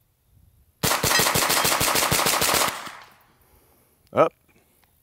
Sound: gun firing repeatedly and rapidly

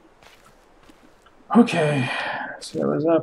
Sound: sighing

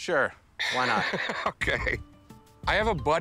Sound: laughs

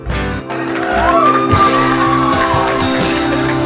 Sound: people cheering; background music

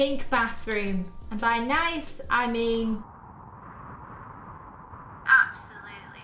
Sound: wind whistles

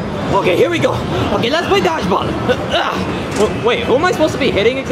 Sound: grunting

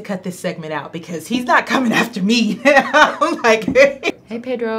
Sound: laughs

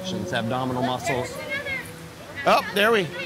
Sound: audience chatter

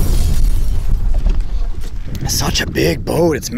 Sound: breaking glass

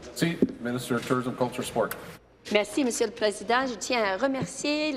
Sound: speaking in French

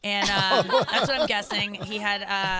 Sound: laughing

